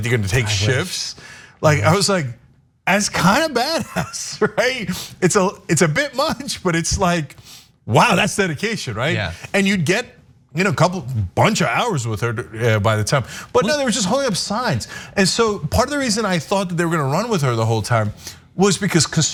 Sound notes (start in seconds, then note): 4.3 laugh